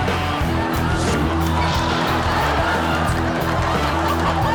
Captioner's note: audience laughs